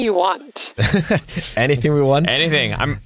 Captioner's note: chuckling